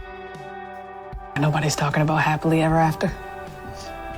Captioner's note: voiceover